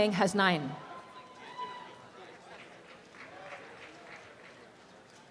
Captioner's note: applause and cheering